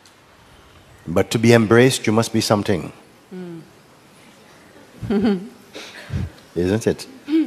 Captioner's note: rire